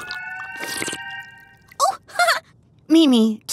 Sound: chuckling

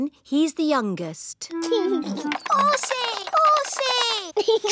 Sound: giggles

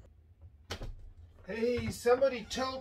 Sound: door opens

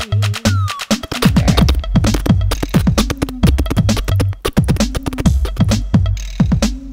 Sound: galloping

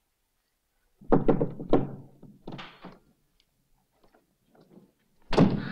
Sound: loudly knocking on door

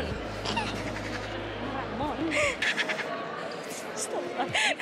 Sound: shady laughs

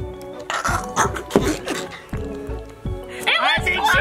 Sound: retching

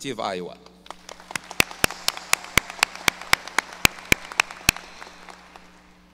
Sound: audience applause

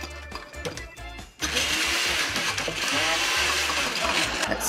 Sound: blender whirrs

